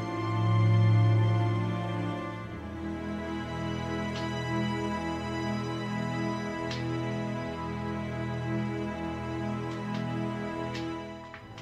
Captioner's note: applause